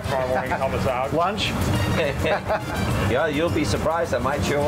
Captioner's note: laughing